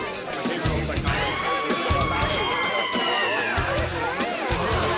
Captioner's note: shrieking